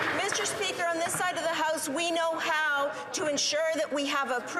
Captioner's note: some Applause